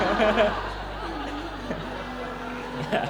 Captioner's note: laughter